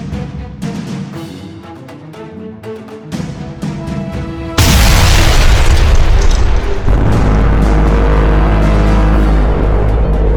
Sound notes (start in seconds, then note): 4.6 explosion booms; 6.8 machine blaring